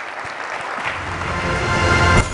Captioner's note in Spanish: aplausos